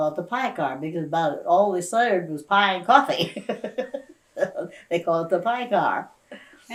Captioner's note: laughs